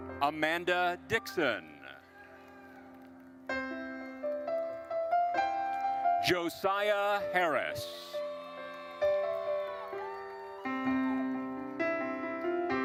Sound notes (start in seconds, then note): 2.3 gentle music; 7.9 audience cheering and applauding